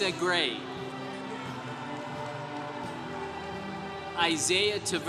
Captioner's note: congregation cheering